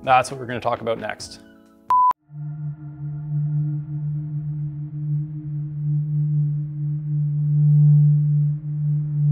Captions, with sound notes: That's what we're going to talk about next. (beep) (ominous music)